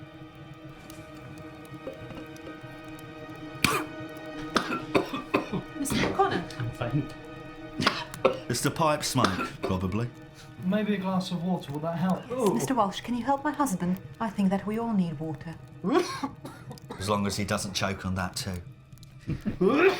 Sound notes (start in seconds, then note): 0.1 eerie music; 3.5 coughing